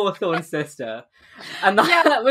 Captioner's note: laughing